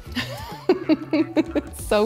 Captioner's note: laughs